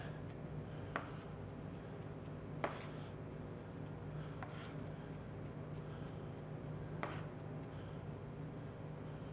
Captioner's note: soft chopping